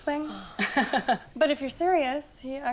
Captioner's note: laughs